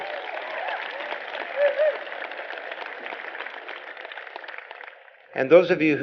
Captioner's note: applause